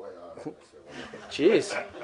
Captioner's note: laughter